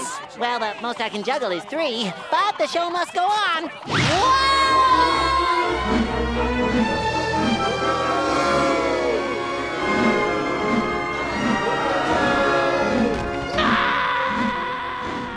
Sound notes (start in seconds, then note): 7.5 crowd booing